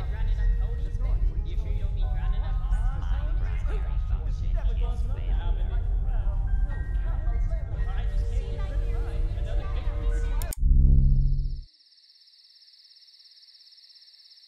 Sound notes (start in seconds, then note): 10.3 clicking